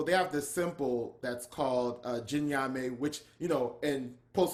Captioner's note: speaking in foreign language